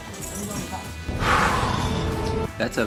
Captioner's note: sigh